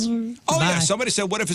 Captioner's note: mimics Zooming